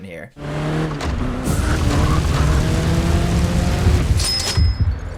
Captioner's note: car engine revving; cash register clinking; heartbeat thumping